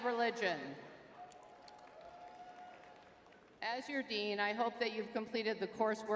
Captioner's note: crowd cheering